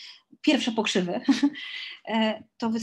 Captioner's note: śmiech